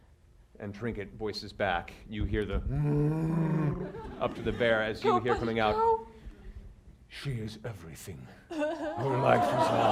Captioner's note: bear noises